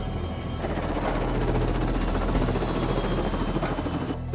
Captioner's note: sound of helicopter rotors